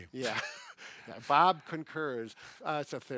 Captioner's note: laughs